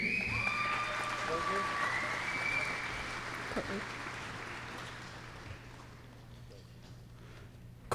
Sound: applause

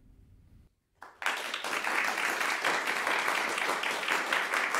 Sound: audience applauding

